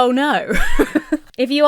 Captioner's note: laughs